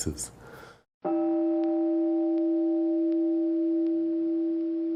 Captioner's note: meditation chime